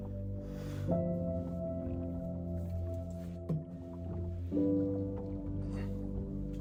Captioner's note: Jacob sniffling